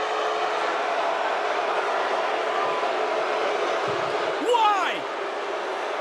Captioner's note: crowd boos